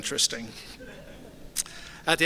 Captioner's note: soft laughter